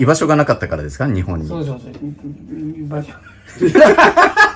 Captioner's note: laugh